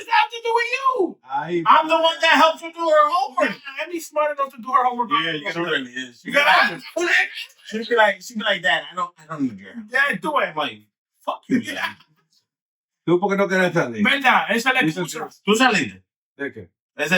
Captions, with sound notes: that have to do with you? I'm the one that helps her do her homework. I'm the smartest person to do her homework. Yeah, she really is. (Laughing) She be like that, I don't need you. Yeah, do it. Like, fuck you, man. (Laughing) (Speaking In Foreign Language) Okay.